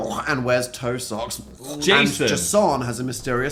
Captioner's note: Dan gagging; gagging